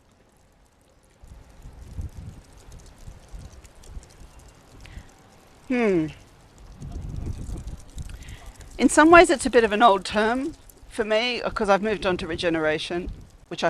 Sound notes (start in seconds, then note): none